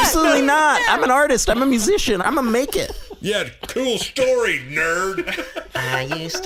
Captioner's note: jeering